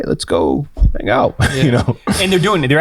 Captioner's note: laughs